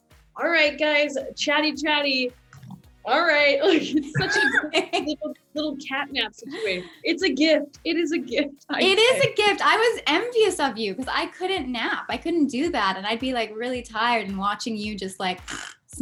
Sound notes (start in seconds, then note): 2.4 snores; 3.7 all laugh; 15.5 snores